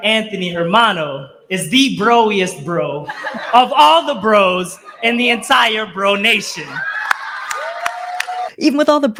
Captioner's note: laughter and applause